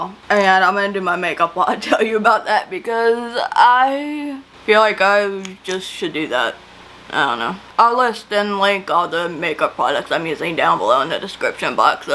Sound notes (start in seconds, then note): none